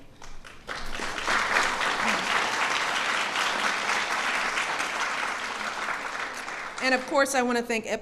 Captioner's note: applause